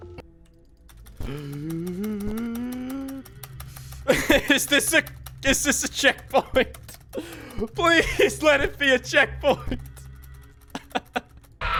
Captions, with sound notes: (Gasps) (Laughing) Is this a- Is this a checkpoint? Please let it be a checkpoint! (Laughs)